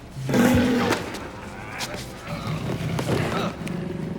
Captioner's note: minion growls